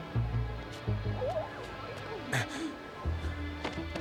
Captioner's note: whines